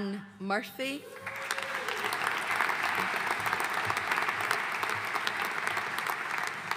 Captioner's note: audience cheering and applauding